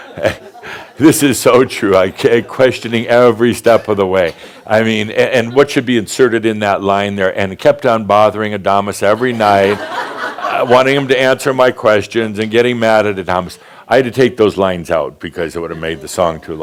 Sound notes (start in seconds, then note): 0.0 laughter; 9.2 more laughter